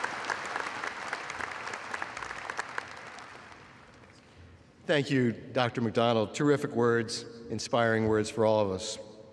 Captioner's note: applause